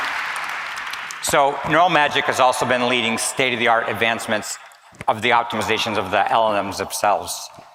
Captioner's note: applause